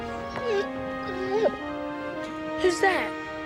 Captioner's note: dog whimpering